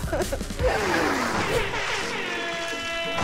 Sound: siren blaring

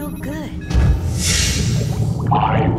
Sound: loud pop and sizzle

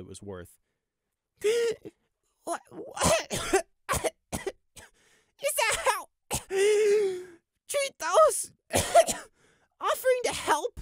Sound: 'gasp'; 'Cough cough cough'; 'wheeze'; 'cough'

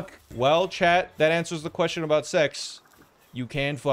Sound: none

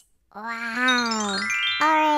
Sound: magic Chime Noise

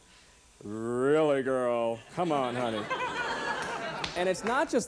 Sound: laughter

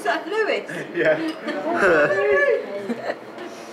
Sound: little laugh

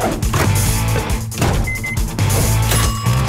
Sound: beeping; dinging

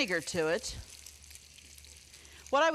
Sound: bacon sizzling

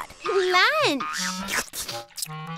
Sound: slurping

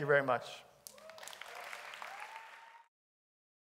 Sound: applause

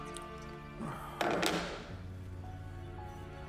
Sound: clattering

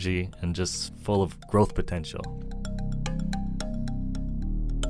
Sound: voiceover

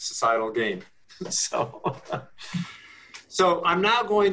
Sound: chuckles

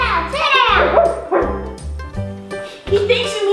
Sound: gorilla barking

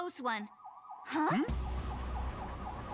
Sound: sirens blaring

